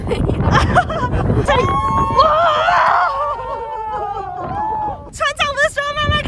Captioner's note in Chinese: 眾人的痛苦呻吟